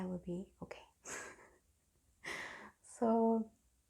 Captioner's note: giggles